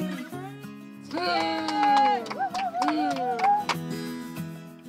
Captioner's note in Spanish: aplauden e claman